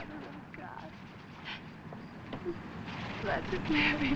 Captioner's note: whimpers